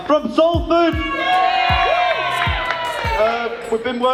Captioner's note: cheering